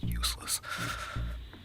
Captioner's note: sighs